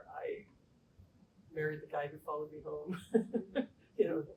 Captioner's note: laughter